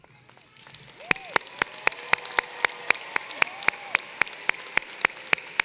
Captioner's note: applause